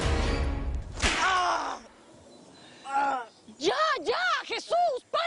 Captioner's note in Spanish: Ruido de latigazos; Gemidos